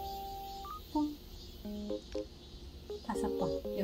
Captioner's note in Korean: 입으로 내는 효과음